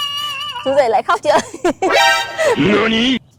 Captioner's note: laughs